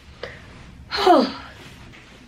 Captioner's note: sigh